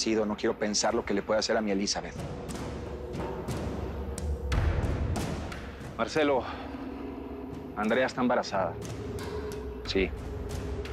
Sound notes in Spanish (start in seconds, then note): none